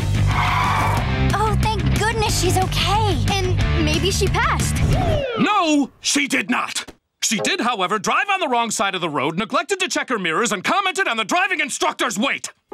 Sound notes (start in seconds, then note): none